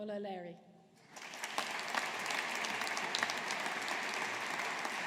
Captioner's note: audience applauding